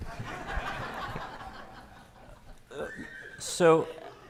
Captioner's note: audience laughing